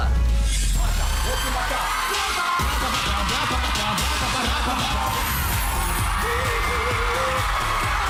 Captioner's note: audience cheering